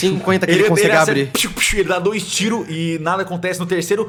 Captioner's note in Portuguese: piu piu